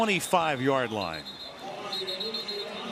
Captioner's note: whistling